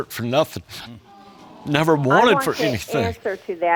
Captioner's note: voice breaking; audience sighs in sympathy